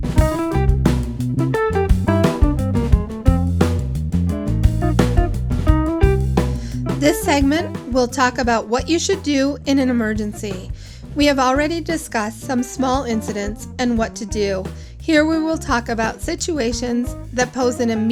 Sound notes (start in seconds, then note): 0.1 playful, lighthearted jazz music; 7.2 voiceover